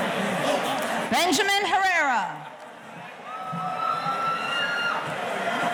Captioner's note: audience cheering